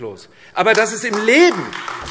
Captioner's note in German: Beifall AfD